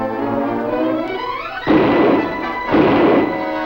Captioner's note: gunshots firing